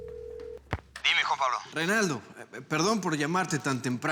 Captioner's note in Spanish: Suena el celular